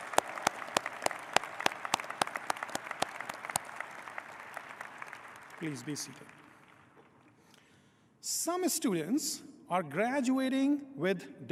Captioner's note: applause